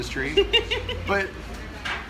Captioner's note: laughing